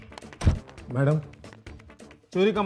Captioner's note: Door closes